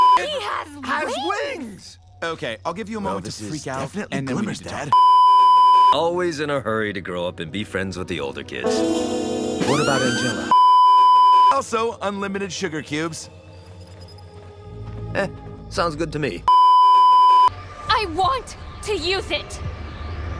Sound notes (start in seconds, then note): 4.9 beeeeeep; 9.6 Kill Bill Siren continues; 16.5 beeeeeep